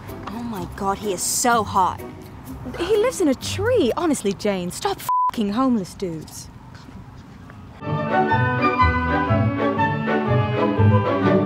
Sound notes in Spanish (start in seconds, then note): 2.8 acento inglés